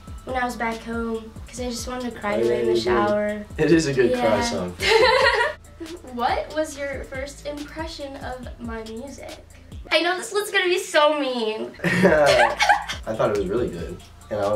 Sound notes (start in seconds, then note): 4.8 laughing; 11.8 both Giggling